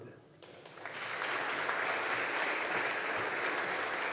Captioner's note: audience applauding